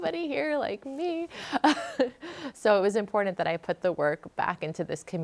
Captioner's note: laughs